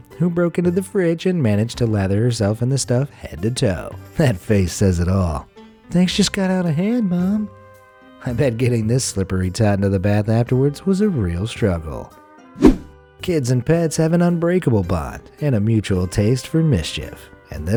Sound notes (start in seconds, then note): 7.4 gentle music; 12.6 air whooshing